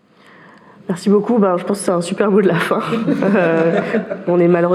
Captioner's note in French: rires